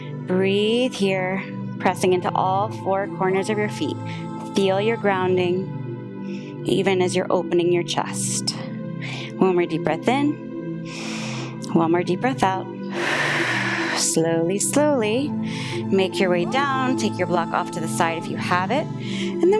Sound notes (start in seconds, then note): 10.8 inhales; 13.5 exhales